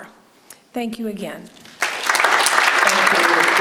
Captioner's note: audience claps